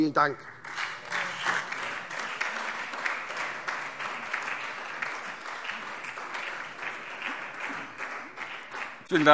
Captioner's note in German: Beifall SPD und Freie Demokraten